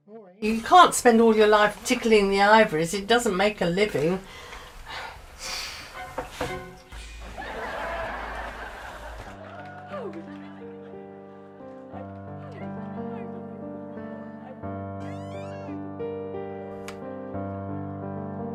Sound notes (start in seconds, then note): 7.2 audience laughter from distant tv; 13.2 contemplative orchestral music